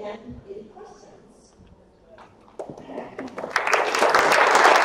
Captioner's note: audience applauds